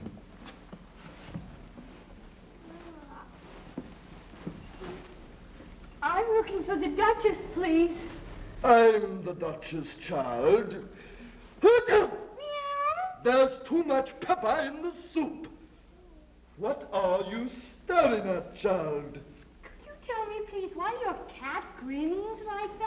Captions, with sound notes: I'm looking for the Duchess, please! - I'm the Duchess, child. (sneezing) (cat meowing) There's too much pepper in the soup! What are you staring at, child? - Could you tell me please why your cat grins like that?